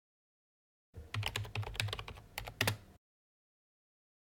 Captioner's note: typing